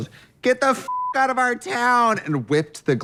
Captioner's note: beep